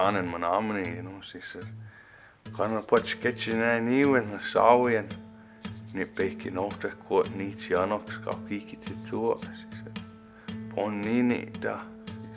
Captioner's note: speaks Menominee